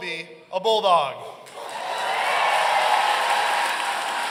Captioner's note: audience cheering